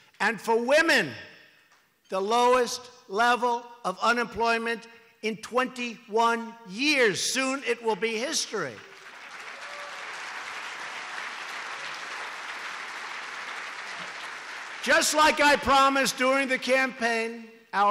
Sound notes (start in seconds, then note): 8.7 applause